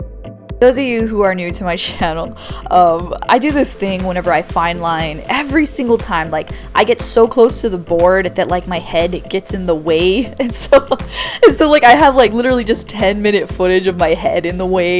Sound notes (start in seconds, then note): 10.3 chuckles